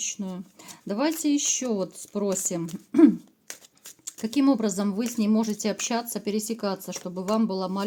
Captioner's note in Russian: откашливается